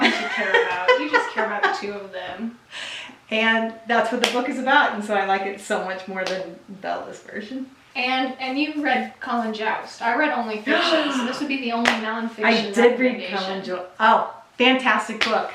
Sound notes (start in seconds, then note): 10.7 mom gasp